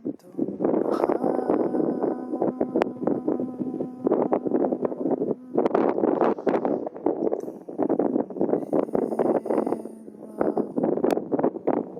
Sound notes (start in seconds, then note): 7.8 chanting